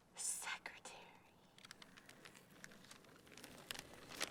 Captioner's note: whispers